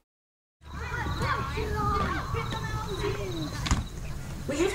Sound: children running, playing, laughing

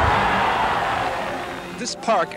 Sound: cheering

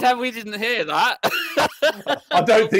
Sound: laughs

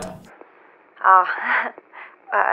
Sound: static crackles

